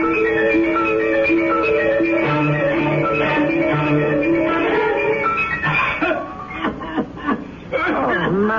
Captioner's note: crying